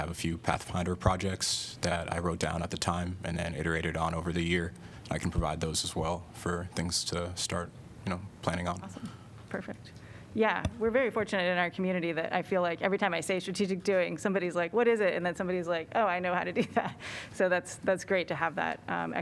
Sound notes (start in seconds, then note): 16.5 laughter